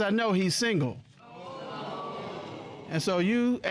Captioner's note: audience exclaiming